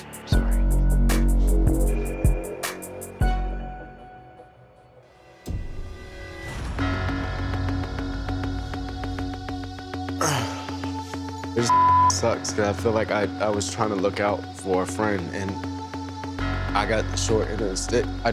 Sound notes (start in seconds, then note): 4.2 beep